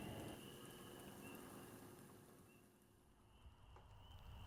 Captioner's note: bird chirping